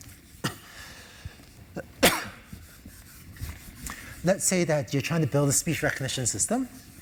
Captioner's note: cough